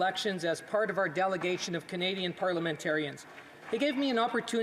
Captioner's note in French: voix de l'interprète